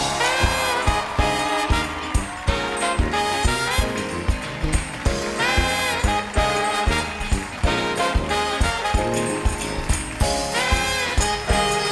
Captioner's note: applause